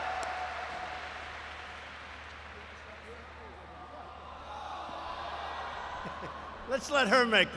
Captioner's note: applause; laughs